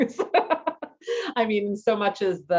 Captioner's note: laughs